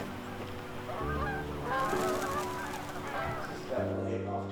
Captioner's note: birds flapping